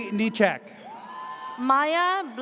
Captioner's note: audience cheers